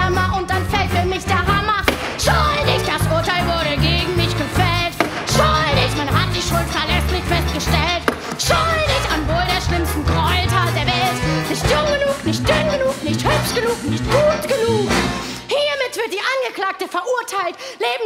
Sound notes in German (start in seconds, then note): 1.8 Bäng!; 5.0 Bäng!; 7.8 Bäng!